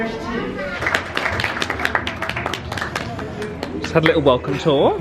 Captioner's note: guests applauding